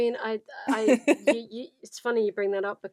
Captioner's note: laughs